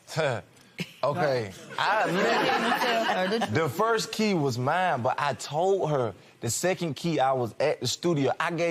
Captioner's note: chuckles; laughter